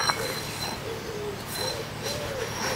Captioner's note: little owls call